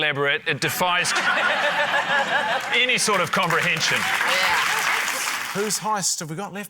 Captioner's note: laughter, applause